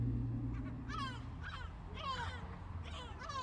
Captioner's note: seagulls